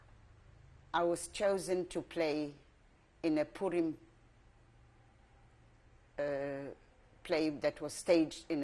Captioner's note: pauses for 3 seconds